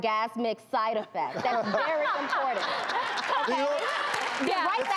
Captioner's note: audience laughter and applause